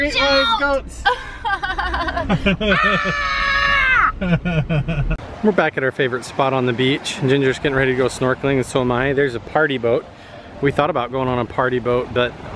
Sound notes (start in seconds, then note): 1.0 both laughing